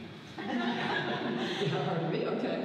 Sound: audience laughs

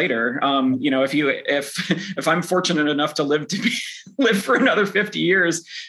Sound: chuckles

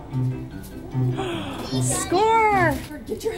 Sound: gasp; laugh

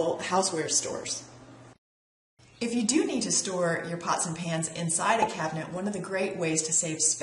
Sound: pop

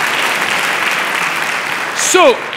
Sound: clapping

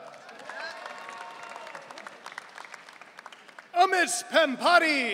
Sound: audience cheering

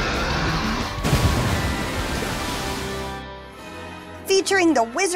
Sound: dinosaur roars; water splashes

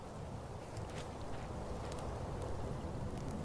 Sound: running water

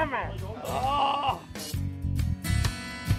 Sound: groans

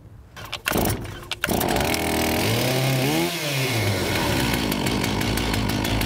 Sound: chain saw starts and rumbles

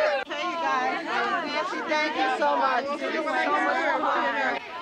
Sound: women chattering

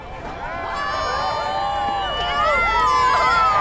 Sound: cheering

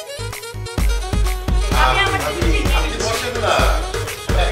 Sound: in distance chattering

